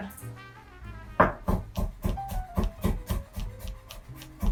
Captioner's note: knife chopping